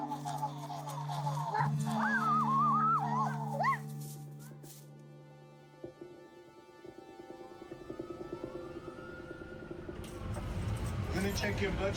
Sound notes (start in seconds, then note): 1.3 whooping; 5.4 subtle music; 8.2 police sirens